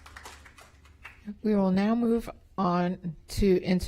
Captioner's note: applause